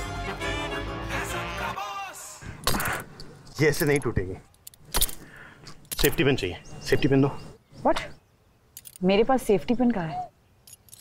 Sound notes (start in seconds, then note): 2.6 hitting rock; 4.9 hitting rock